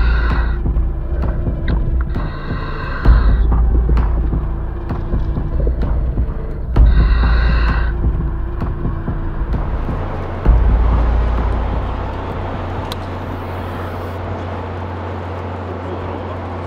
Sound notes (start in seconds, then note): 0.0 intense music; 0.2 breaths in; 4.4 intense music; 10.6 wind howls